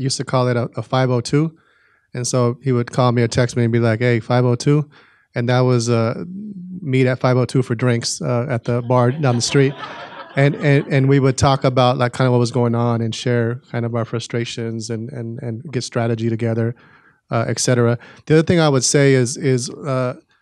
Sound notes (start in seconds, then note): 8.6 audience laughing